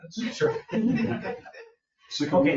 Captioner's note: people chuckle